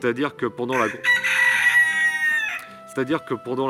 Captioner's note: rooster Cries